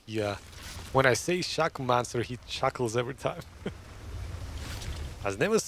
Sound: laughs

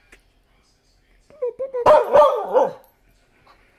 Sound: barking

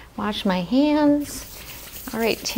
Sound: hands scrubbing

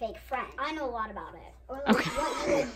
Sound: everyone laughs

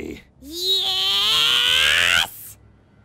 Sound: evolving into a scream

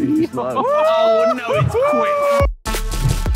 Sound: Tobi whooping; epic music begins

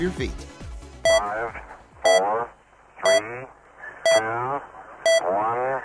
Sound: male Voice

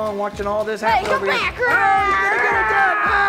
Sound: mimics growling

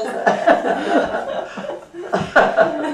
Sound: laughter

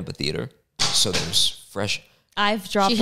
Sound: object bangs

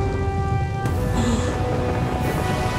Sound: gasping

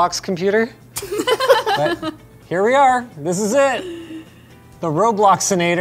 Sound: laugh

